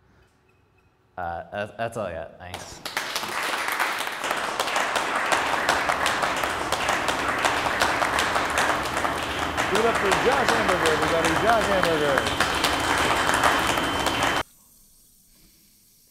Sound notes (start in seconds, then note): 5.7 tepid applause